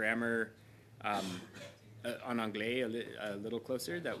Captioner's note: speaking french